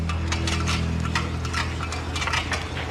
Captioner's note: metal clanks